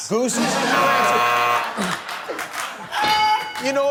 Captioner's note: buzz